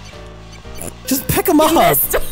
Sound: laughing

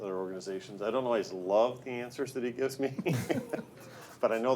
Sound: laughs

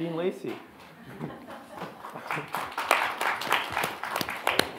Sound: audience clapping

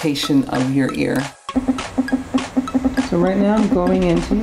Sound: scanner beeping

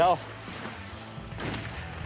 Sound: gunshotshot

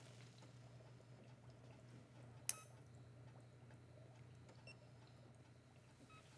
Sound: none

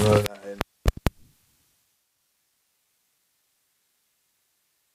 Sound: microphone feedback

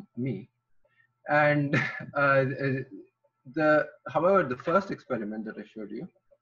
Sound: laughs

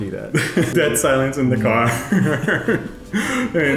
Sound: laughs

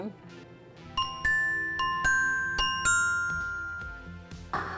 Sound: dinging

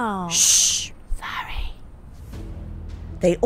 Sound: whispering

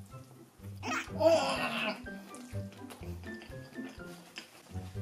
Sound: eating so hard…

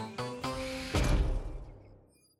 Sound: door slides shut

